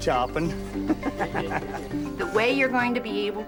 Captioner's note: men laughing